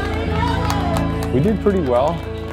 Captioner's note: cheering